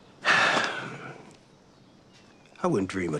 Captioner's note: Henry sighs